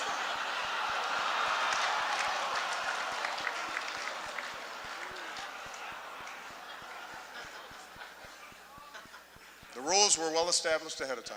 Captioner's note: laughter